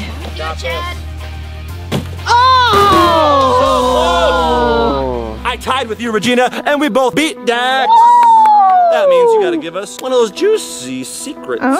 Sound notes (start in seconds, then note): 2.7 disappointed groans; 7.8 cheers